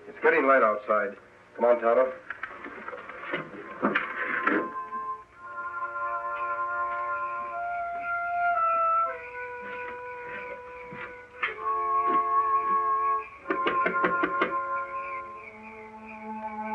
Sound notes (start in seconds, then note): 5.6 insects chirping; 5.6 suspenseful music; 13.4 knocking